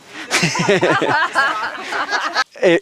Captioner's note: everyone laughs